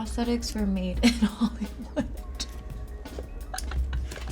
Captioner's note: giggling